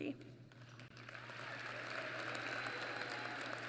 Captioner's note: applause